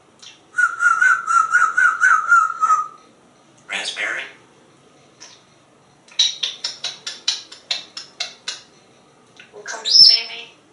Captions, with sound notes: [Whistles] Raspberry. [Kisses] Wanna come see me?